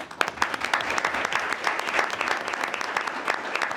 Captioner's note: all clapping